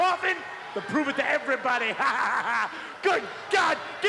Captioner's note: laughs